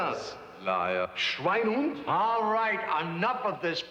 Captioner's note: speaks foreign language